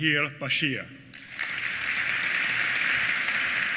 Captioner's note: applause